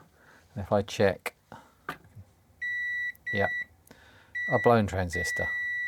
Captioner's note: beeping